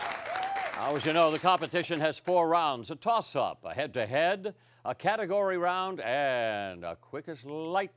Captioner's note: cheering and applause